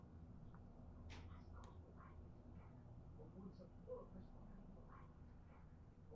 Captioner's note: TV chatters quietly in background